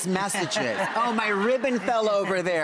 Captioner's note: audience laughs